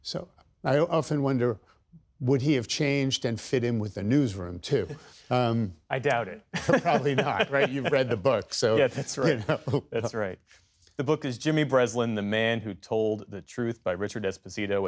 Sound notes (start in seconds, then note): 6.5 laughter